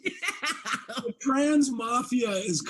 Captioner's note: Abby laughs